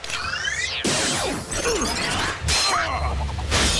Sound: grunting

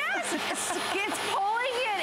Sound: laughter

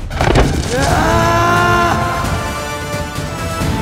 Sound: screams

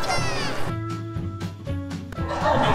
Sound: SFX - cute laugh

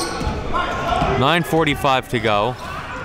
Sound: yelling

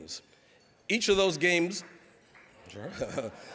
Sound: laughing

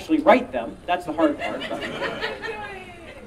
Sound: audience laughing

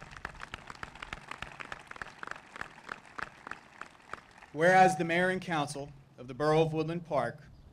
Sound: applause

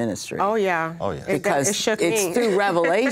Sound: chuckles

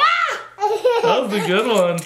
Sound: laughs

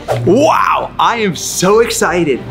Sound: screen swooshes

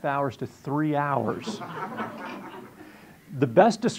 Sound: audience laughing

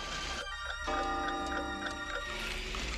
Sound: clock chiming

